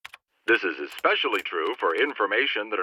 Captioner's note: computer voice